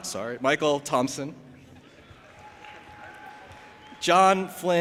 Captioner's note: audience applauding and cheering